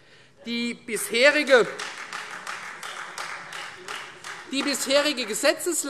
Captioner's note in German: Beifall Freie Demokraten